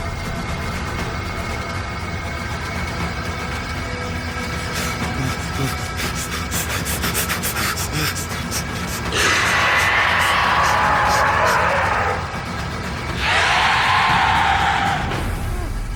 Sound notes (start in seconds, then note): 4.6 Perez breathing deeply; 9.6 snake growls